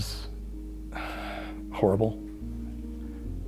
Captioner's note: sighs